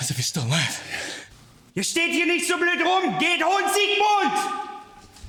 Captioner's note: officer speaking German